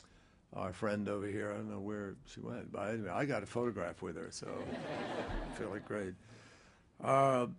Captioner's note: laughter